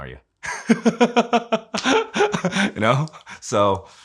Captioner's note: laughing